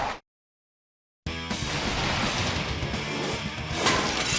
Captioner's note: metal clattering; hard rock music; glass shatters